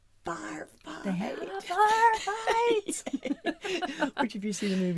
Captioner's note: laughing